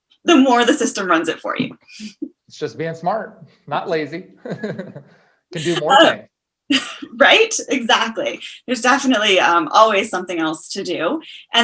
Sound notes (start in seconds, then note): 3.9 laughs